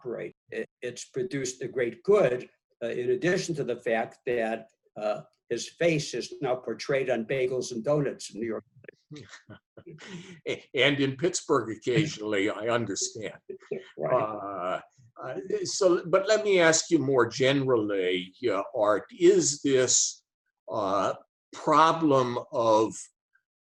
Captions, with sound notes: it's produced a great good in addition to the fact that his face is now portrayed on bagels and doughnuts in New York. (laughs) - And in Pittsburgh occasionally I understand. So, but let me ask you more generally Art, is this, problem of